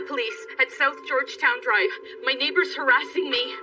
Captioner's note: none